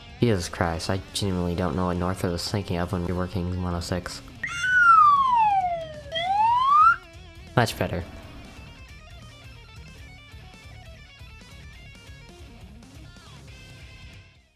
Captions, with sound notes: Jesus Christ, I genuinely don't know what Northwood was thinking of when reworking 106. *slide whistle down* *slide whistle up* Much better!